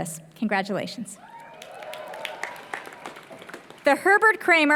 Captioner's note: applause